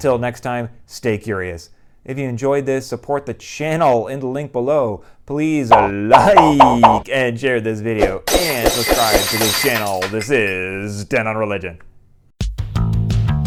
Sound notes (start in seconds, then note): 8.2 glass breaking